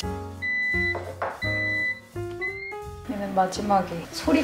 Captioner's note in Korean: 삐- 삐- 반숙 달걀 완료